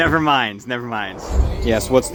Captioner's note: whoosh